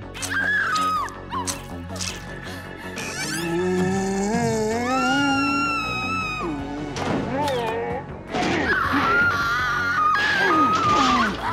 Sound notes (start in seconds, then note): 0.2 screaming; 4.6 screaming; 8.5 scream